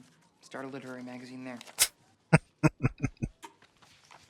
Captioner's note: chuckling